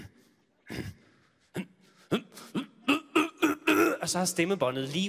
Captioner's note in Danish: mere grynten og kvælningslyde